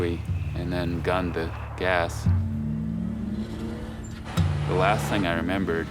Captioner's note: car revving engine